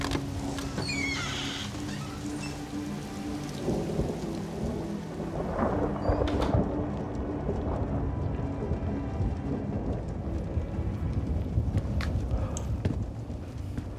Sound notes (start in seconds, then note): 0.0 door opens; 6.1 door closes